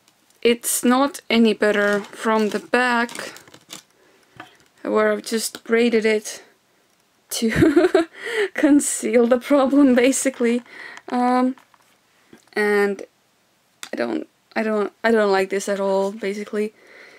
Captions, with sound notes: It's not any better from the back. I just braided it to (laughter) conceal the problem, basically. And... I don't... I don't like this at all.